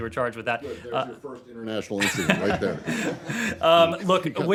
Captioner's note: laughter